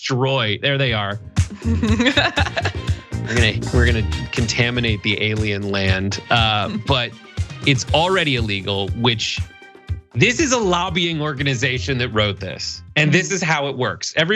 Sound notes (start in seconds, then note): 1.6 laugh